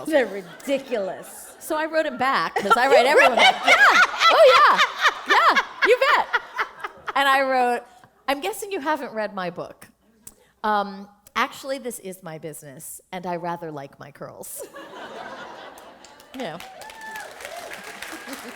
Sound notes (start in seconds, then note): 8.2 laughter; 14.6 laughter; 16.0 applause